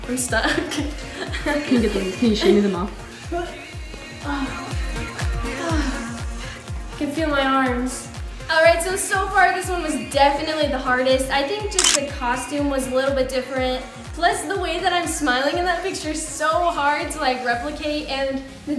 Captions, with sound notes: - I'm stuck (laughing) - You should get them off (sigh of relief) - I can feel my arms alright so so far this one was definitely the hardest. I think just the costume was a little bit different. Plus the way that I'm smiling in that picture's so hard to like replicate and